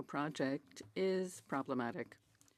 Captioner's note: speaking French